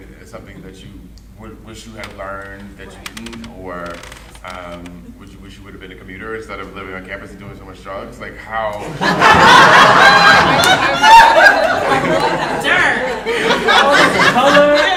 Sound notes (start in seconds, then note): 1.9 rustling drowns out speaker; 8.8 audience laughing; 10.7 laughing drowns out speakers